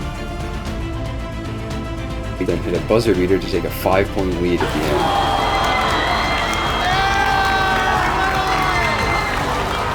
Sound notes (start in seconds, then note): 4.6 crowd screaming and cheering